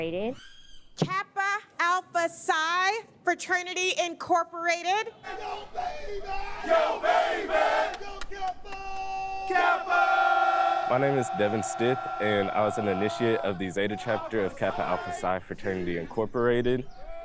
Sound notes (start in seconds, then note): 10.8 crowd chanting